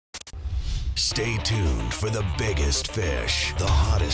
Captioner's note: voiceover